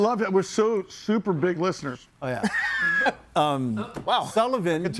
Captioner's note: person laughs